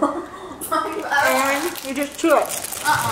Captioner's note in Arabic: ضحك